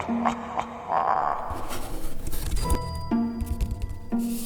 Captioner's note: menacing laughter; scrabbling